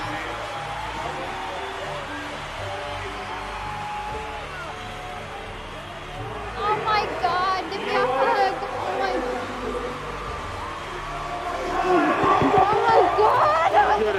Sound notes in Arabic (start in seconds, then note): 3.0 تشجيع الجمهور